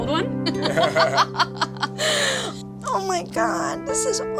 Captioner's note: laughing